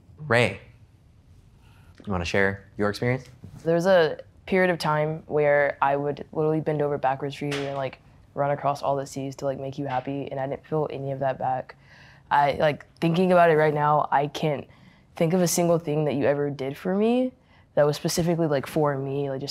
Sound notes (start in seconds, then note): none